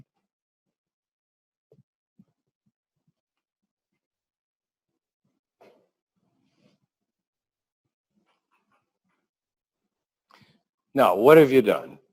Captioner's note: pause